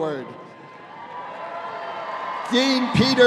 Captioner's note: audience cheering